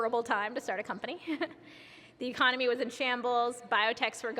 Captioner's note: laughs